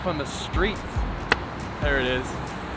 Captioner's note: traffic passes